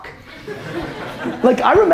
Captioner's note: audience laughter